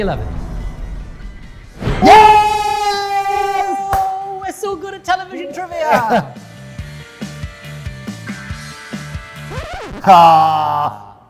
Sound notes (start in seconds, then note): 1.6 dramatic music; 2.0 both cheering; 5.9 upbeat rock music; 9.4 record scratching